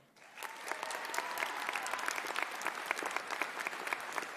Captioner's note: audience applauding